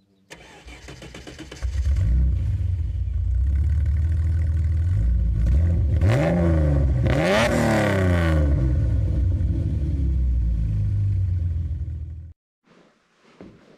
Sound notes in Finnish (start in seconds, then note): 0.3 V6 moottori käynnistyy; 3.4 V6 moottori käy joutokäyntiä ja ottaa kierroksia